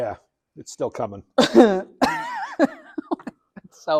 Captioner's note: laughs